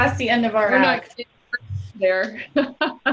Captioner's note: laughs